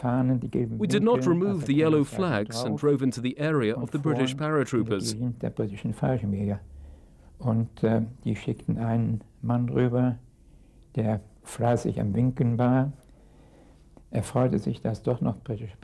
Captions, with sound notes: We did not remove the yellow flags and drove into the area of the British paratroopers. (speaking in a foreign language)